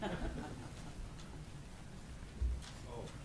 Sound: laughter

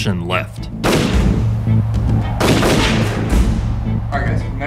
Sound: gunshots

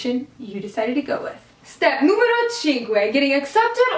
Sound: in Italian

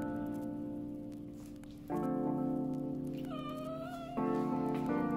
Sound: Lusja meowing

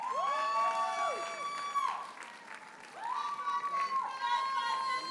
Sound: audience cheers and applauds

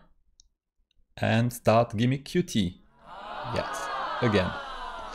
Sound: crowd: Aaahhh

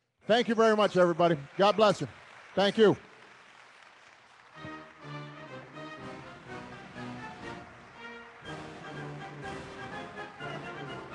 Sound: applause

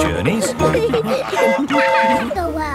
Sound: train whistle toots

